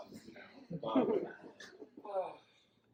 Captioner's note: audience laughs